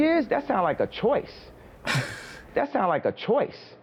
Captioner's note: scoffing